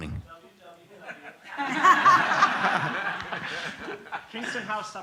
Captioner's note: laughter